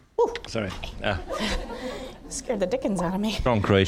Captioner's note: audience laughing